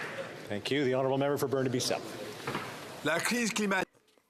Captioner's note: some Applause